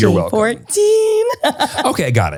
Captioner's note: laughs